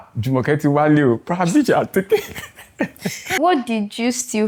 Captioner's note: laughs